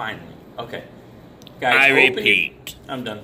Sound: intercom

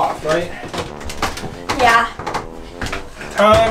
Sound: wood creaking

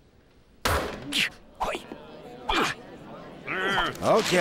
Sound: both groaning

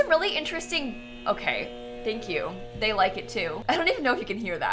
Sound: mowing outside

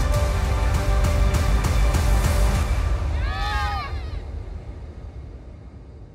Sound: applause

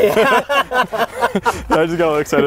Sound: laughing

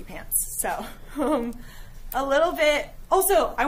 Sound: giggling

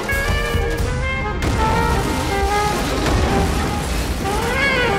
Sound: car crashing

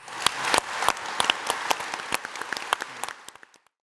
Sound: audience applauds

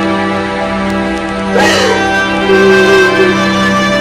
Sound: cries

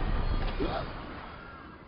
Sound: loud explosion; gasps

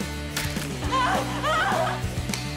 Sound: screaming

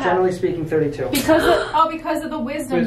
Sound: gasp

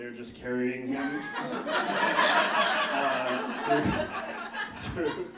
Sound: audience laughing

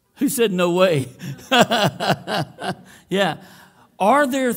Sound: laughing

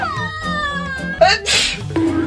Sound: sneeze

